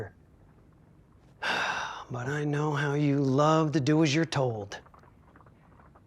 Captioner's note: sigh